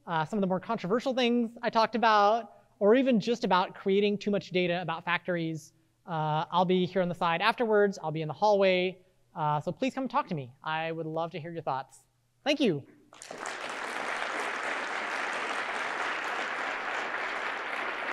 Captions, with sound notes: some of the more controversial things I talked about, or even just about creating too much data about factories, I'll be here on the side. Afterwards, I'll be in the hallway. So please come and talk to me. I would love to hear your thoughts. Thank you. (audience applauding)